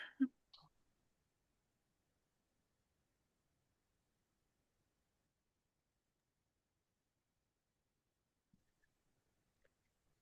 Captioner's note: silence